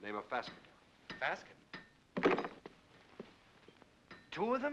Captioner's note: saddle clatters down